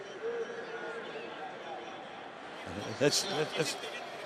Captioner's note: pa announcement